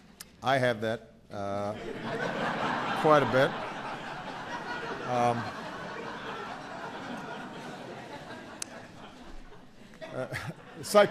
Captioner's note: laughter